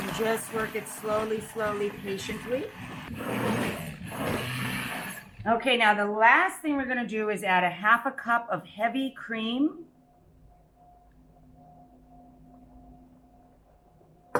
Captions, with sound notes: And just work it slowly, slowly, patiently. (mixer whirring) Okay, now the last thing we're gonna do is add a half a cup of heavy cream